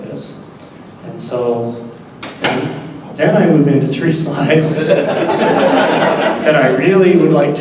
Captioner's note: laughter